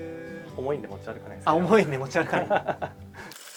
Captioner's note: laughs